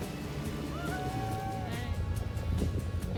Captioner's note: everyone: "woohoo"